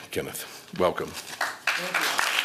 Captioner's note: applause